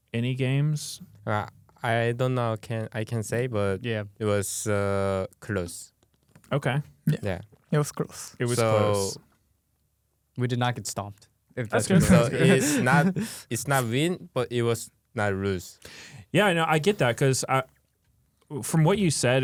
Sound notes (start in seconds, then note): 11.7 laughs